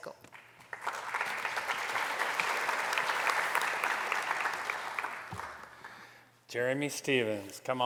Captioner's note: applause